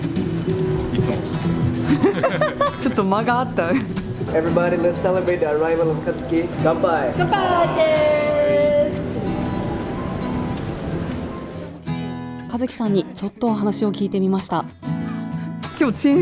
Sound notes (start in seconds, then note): 1.8 laughs